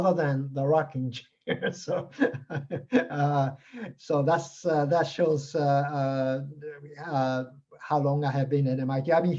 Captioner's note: chuckles